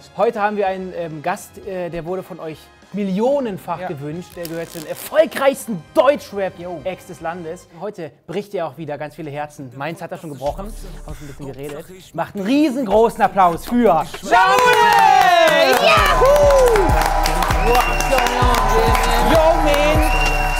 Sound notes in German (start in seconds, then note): 17.9 Jubel, Applaus